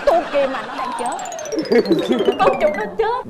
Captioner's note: laughing